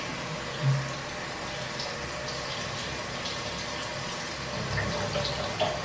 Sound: bubbling

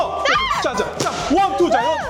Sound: comes with a little voice crack

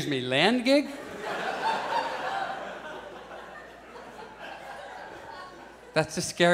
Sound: audience laughs

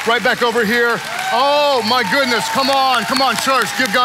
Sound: congregants cheering

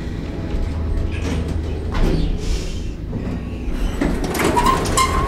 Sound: elevator doors opening

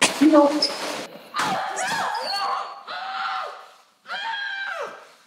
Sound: Alli screaming and grunting

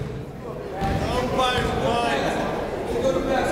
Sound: chatter

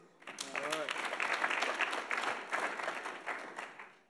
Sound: audience applauds

